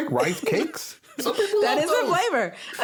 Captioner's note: everyone laughing